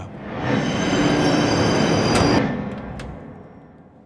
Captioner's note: train screeching; door clicks